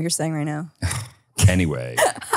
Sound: sighs; laughs

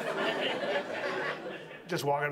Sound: audience laughs

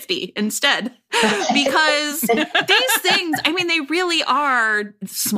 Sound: laughter

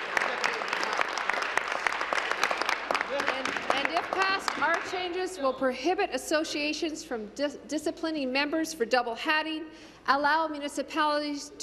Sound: applause

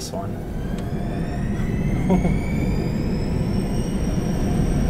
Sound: engine accelerating

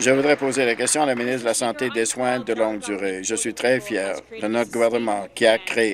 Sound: applause

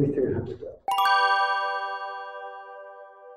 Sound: heavenly Bell Chimes

